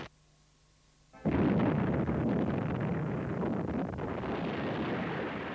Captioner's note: ship explodes